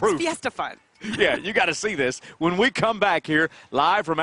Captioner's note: laughter